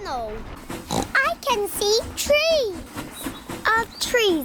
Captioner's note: oinks